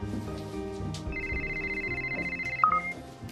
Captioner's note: cell phone ringing